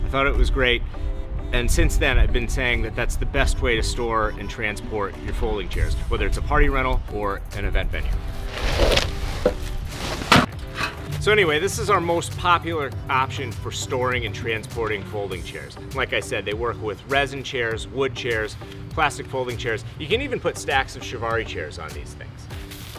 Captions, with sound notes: I thought it was great, and since then I'd been saying that that's the best way to store and transport your folding chairs. Whether it's a party rental or an event venue. (rustling) So anyway, this is our most popular option for storing and transporting folding chairs. Like I said, they work with resin chairs, wood chairs, plastic folding chairs. You can even put stacks of chiavari chairs on these things.